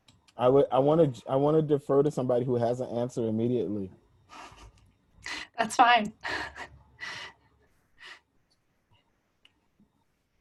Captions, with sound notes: I want to defer to somebody who has an answer immediately. (Giggles) That's fine.